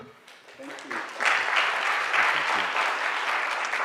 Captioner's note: applause